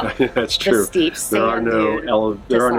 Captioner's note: laughs